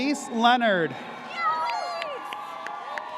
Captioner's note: audience cheers